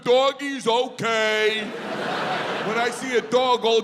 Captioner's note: audience laughs